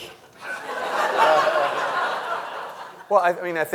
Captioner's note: audience and people laughing